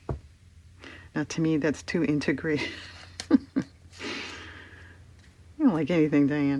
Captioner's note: laughs